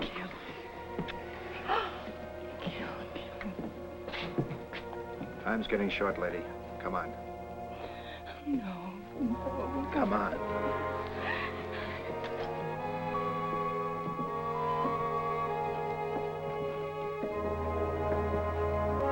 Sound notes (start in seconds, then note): 1.7 gasps; 11.1 Ellen gasps